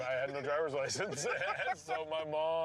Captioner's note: laughing